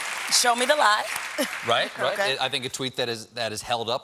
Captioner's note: cheers and applause